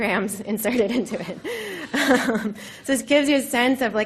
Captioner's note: laughter